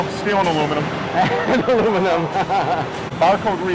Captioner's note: laughs